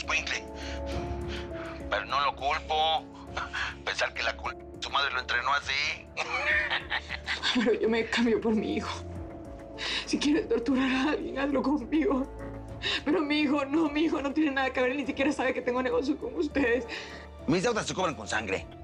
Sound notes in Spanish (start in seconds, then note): 6.2 Risas